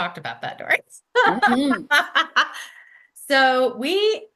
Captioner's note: laughs